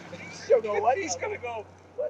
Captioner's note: laughs